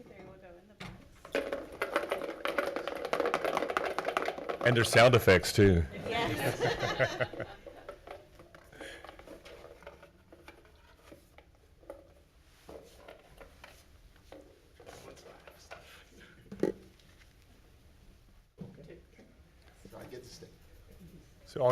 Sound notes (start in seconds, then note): 2.2 rattling; 6.0 everyone chuckling